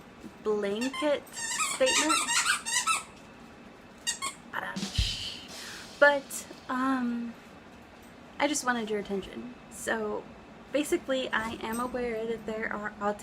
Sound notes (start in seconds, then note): 4.1 in background squeaking dog toys incessantly; 4.6 drum sound